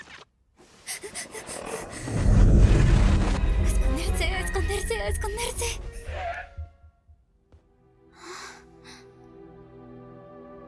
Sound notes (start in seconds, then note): 0.8 panting; 1.0 Kaufmo growling; 5.8 gasps; 8.4 pensive music plays